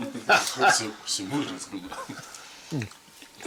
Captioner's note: laughing